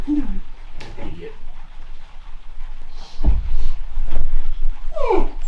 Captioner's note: wimpers